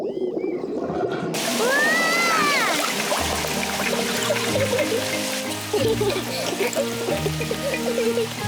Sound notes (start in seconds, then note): 1.3 yelling; 3.8 both giggle